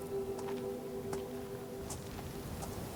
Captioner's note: footsteps pattering; wind howling